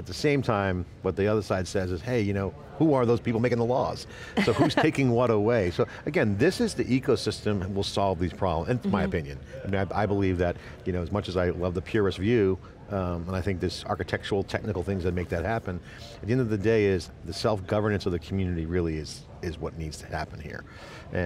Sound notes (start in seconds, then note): 4.4 laughing